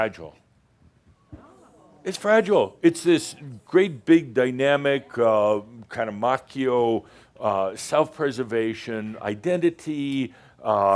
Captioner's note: audience says “Oh”